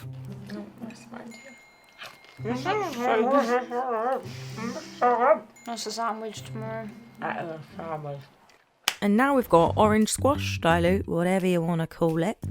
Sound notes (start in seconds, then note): 2.4 mumbles happily